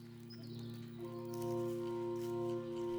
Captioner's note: footsteps on grass